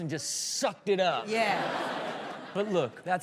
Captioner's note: all laugh